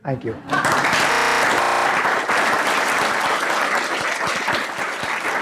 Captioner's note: applause